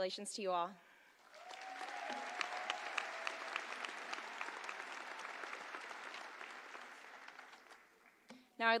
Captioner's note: applause